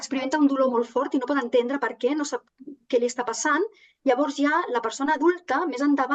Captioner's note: continues speaking in Catalan